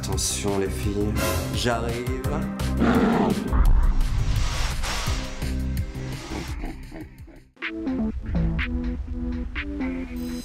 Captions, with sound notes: Watch out, girls, I'm coming. [roar] [evil laughter]